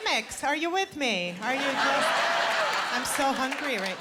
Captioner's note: laughter